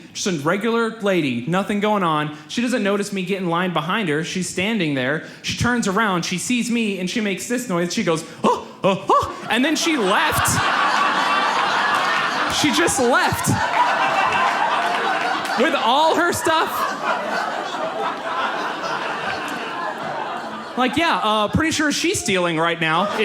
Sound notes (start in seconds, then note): 9.1 gasps loudly; 10.6 audience laughs; 16.9 audience laughs